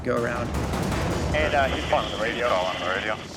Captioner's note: man Over Radio; person Over Radio